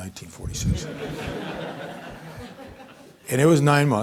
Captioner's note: audience laughing